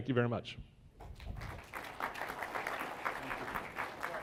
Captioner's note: applause